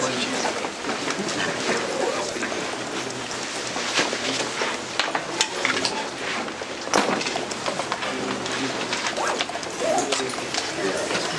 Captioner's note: background chatter